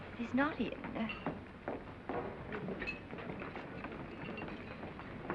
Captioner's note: crew chattering